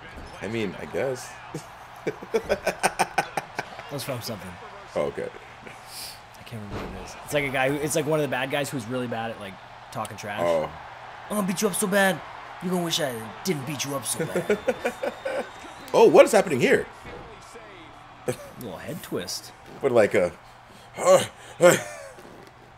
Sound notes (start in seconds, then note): 1.5 laugh; 14.0 laugh